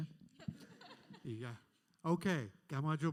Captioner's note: panelists laugh